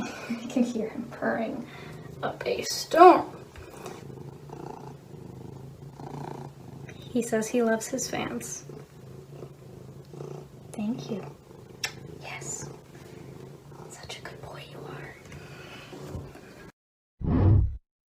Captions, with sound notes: you can hear him purring up a storm! *still audibly purring* he says he loves his fans thank you yes such a good boy you are